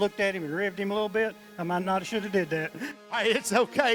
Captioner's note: laughing